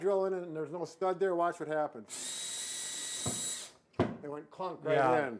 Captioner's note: drill whirring